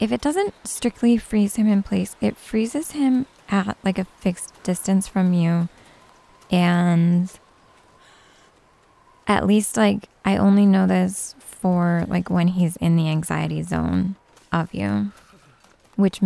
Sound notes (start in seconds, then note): none